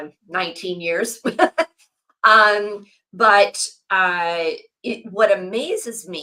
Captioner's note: laughs